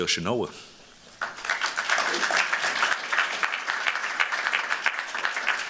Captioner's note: applause